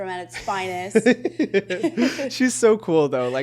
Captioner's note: chuckles